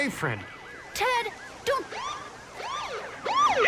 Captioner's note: siren whooping